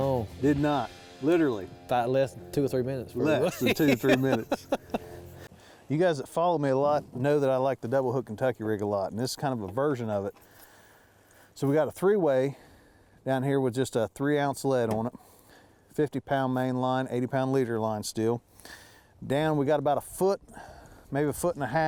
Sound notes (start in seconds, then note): 3.2 laughing